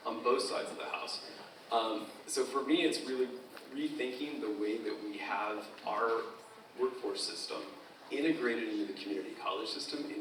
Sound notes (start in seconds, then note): none